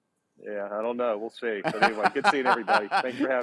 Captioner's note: laughs